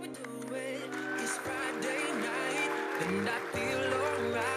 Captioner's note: audience cheers